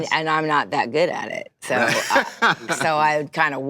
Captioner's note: laughter